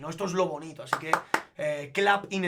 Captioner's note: claps in Spanish x3